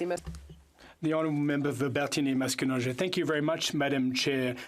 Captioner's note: speaking French